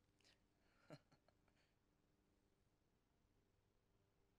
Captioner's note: chuckles